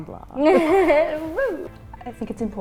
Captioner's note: laughs